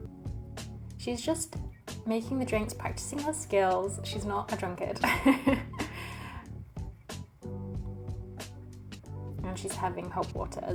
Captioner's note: laughs